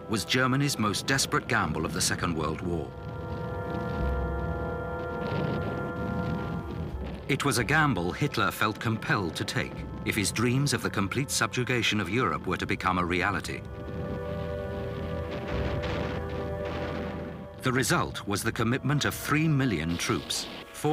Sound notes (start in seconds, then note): 5.3 artillery blasting